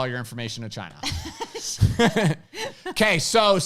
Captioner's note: laughs